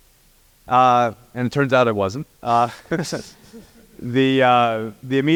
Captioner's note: laugh